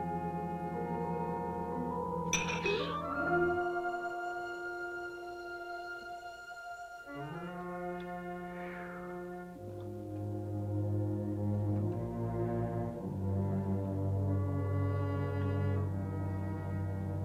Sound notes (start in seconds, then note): 0.0 suspenseful music; 2.3 clink - scare; 8.6 suspenseful music